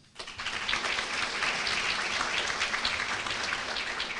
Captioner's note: applause